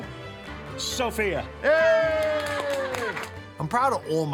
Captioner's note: all cheer